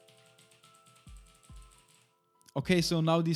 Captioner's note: keyboard clicks